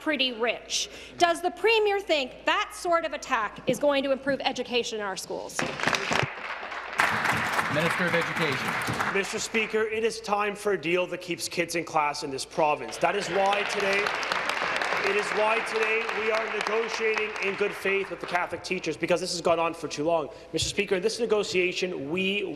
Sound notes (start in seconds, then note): 12.8 applause